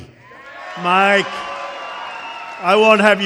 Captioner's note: applause